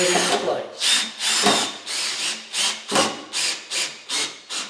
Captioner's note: drill whirring